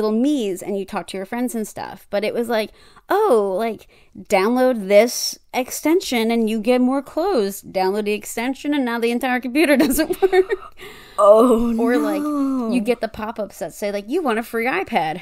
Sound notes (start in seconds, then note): 10.8 gasp